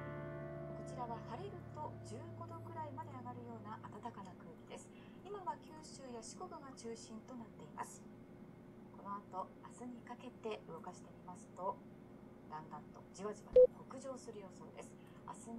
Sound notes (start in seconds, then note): 0.0 music fades; 3.1 news broadcast in background